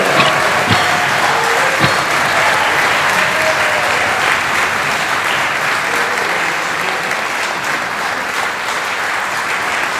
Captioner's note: applause